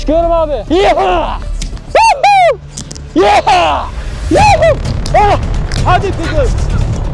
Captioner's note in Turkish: Köpeğin dikkatini çekmek için bağırıyor; Tansiyon müzik